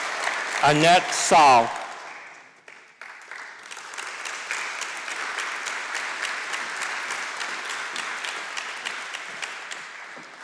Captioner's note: applause; applause